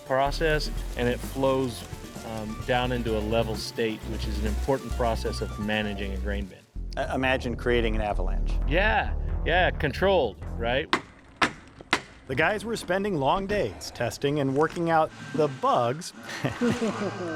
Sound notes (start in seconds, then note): 10.8 hammer banging